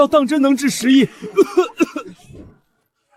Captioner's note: cough, cough, cough